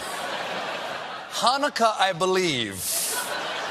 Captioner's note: laughter